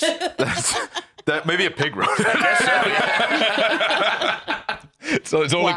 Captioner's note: all laughing